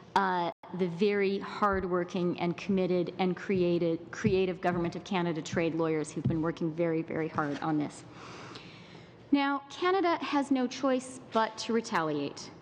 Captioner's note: speaking in french